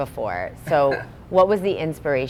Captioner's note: laugh